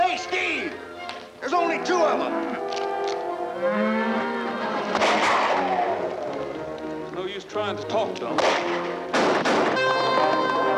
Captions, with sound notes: - Hey, Steve, there's only two of 'em. (cows mooing) (gun firing) - There's no use trying to talk to 'em. (guns firing)